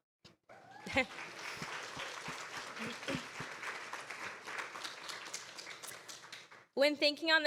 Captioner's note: cheers and applause